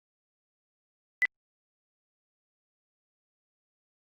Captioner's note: beeps